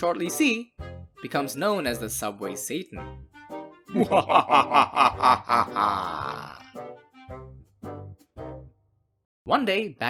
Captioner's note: evil laughter